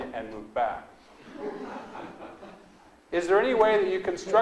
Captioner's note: audience laughs